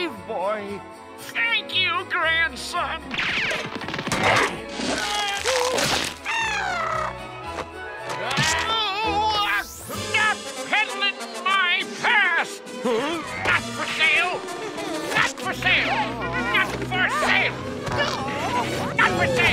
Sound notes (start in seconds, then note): 5.8 squawking